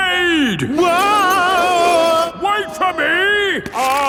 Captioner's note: yelling